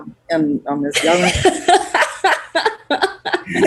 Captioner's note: laughs